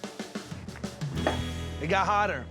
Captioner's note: stomps ground